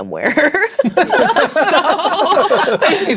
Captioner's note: laughing; players laughing